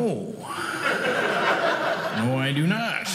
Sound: audience laughing

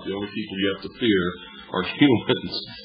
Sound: laughs

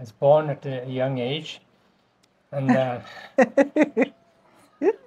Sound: laughter

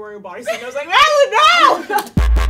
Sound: laughs; upbeat music

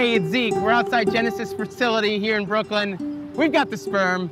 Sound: horns honking

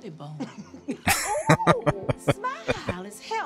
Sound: laughing

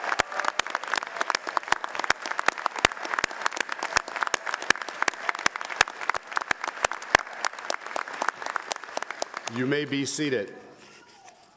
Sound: applause

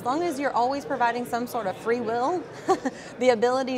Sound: laughs

